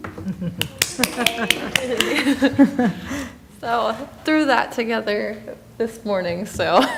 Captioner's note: applause